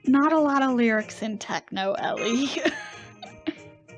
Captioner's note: laughs